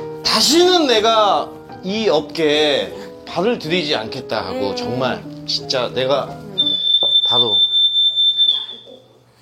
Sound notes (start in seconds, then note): 6.6 beeping sound